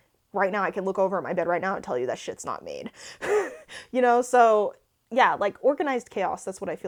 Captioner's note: laughs